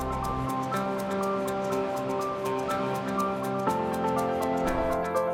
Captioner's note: water rushing